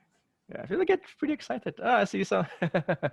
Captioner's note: laughs